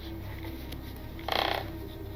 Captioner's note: floor boards creaking